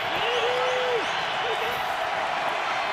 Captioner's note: shouting